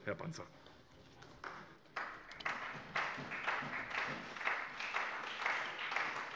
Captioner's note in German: Beifall bei der SPD